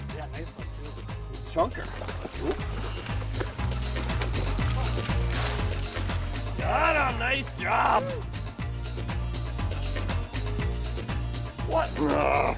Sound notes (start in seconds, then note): 4.3 splashing